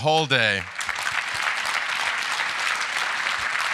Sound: applause

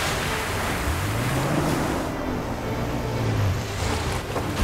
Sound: trucks roar and splash

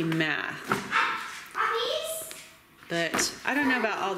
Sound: dog barking

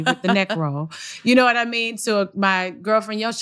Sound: laughter

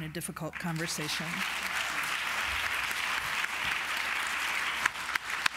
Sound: applause

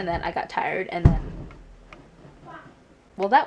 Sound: loud stomping noise from upstairs

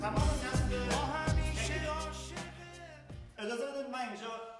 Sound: speaking in farsi

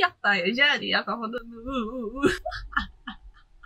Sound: ahuhuhu

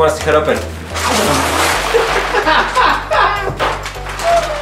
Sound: laughing

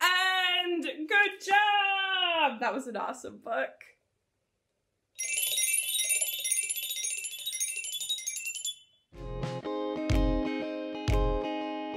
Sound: bell sound

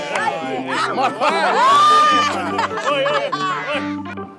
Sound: laughs

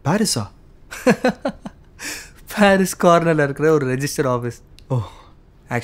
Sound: chuckles

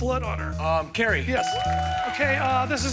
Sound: bell dings

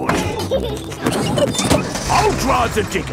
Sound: peppa and george laughing

